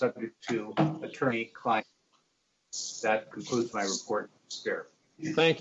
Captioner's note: distorted sound